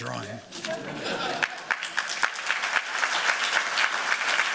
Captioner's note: applause